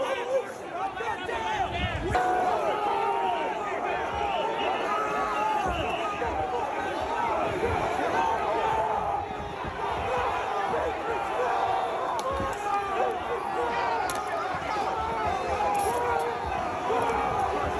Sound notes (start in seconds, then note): 2.6 yelling